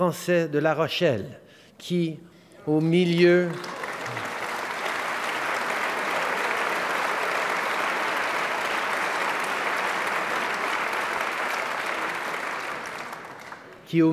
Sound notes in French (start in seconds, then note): 7.0 Applaudissements